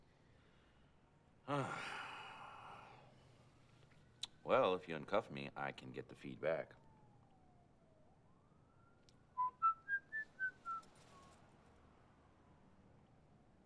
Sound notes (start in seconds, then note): 1.4 sighs; 9.3 whistling